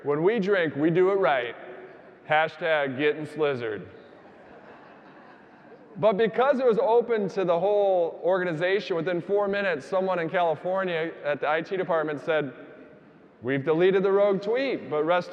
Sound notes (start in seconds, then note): 4.1 audience laughing